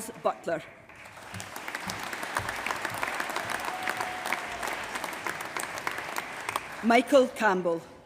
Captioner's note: applause